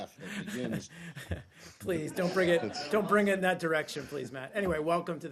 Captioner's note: laughter